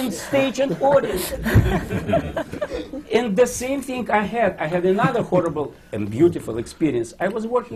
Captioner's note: laughter